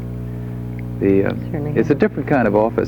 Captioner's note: speaks faintly